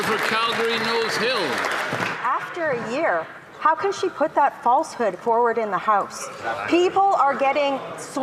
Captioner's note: some Applause